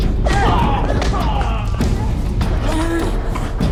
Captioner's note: both grunting